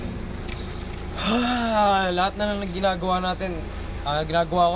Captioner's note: sigh